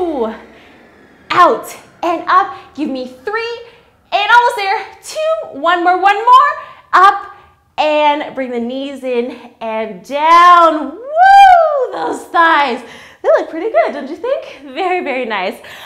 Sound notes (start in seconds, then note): 10.9 screams